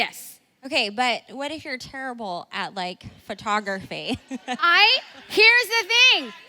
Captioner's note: laughs